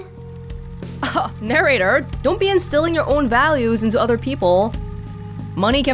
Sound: scoffs

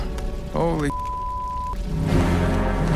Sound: beep; dramatic music

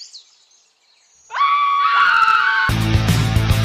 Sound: everyone screaming; exit music

